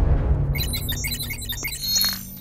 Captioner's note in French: bruitages informatiques